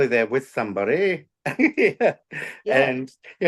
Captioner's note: is laughing